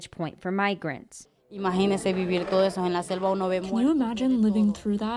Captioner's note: through translator